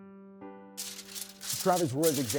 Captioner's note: soothing music; paper rustles